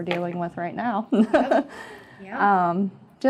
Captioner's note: laughter